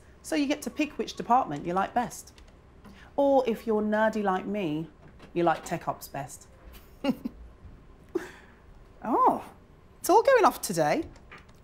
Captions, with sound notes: so you get to pick which department you like best. Or if you're nerdy like me, you'll like Tech Ops best. [Chuckles] Oh, it's all going off today.